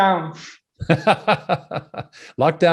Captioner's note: both laughing